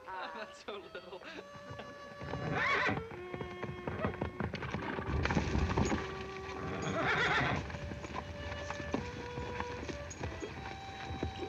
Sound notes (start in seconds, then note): 1.6 horse neighing